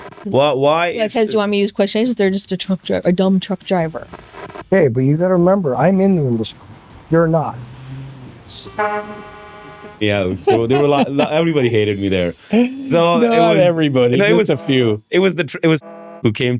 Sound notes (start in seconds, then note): 10.4 horn blares